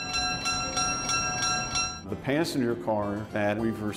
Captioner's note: train bell ringing